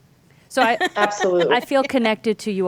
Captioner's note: laughing